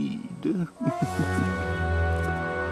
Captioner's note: evil chuckle